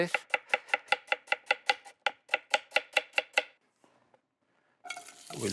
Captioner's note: chopping